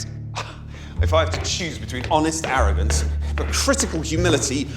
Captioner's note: scoffs